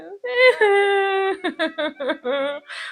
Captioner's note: cries